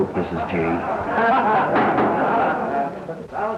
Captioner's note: audience laughs